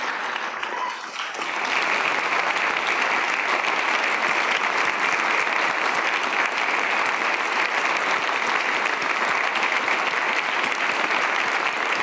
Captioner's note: cheers and applause